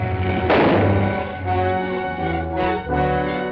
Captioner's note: gunshot